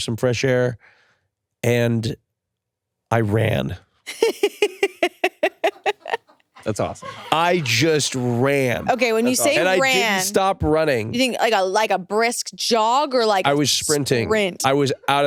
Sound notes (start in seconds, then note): 4.0 and crew members laugh